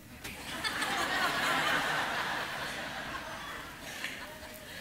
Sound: congregation laughing

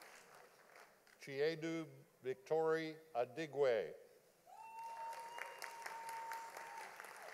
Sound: audience applauding

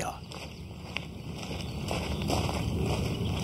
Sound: birdsong

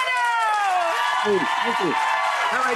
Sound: audience applauding

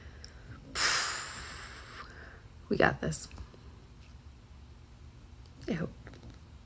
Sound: breathes out

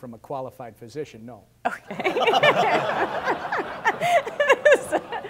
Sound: candidates, , audience laughter throughout

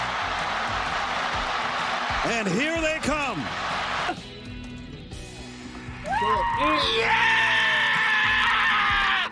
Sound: applause

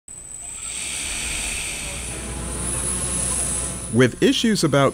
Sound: sound of whirling propellors

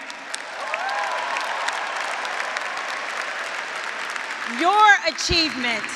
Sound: graduates, audience, and faculty applauding

